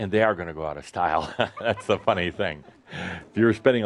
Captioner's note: chuckles